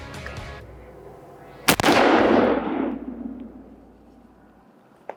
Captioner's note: rifle bangs